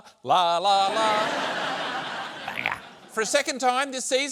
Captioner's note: laughter